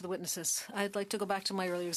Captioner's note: speaking French